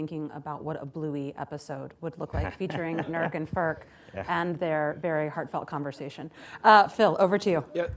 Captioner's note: laughter